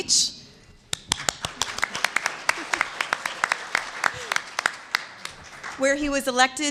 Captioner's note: applause